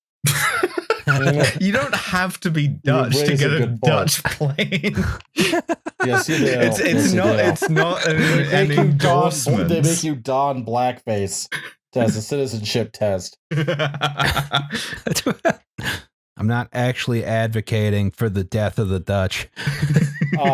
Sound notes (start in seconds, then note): 0.2 laughter; 5.4 laughter; 13.5 laughs